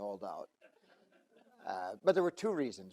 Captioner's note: audience laugh